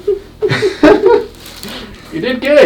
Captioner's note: both laughing